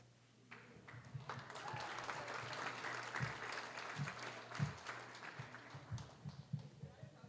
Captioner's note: applause